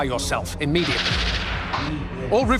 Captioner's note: gunfire over comms